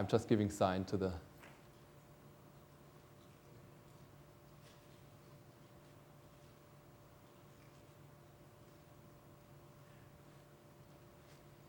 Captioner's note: silence